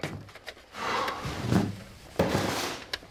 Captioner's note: hawk sighs